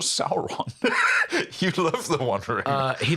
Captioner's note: laughs